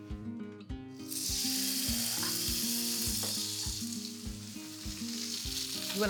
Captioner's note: sizzling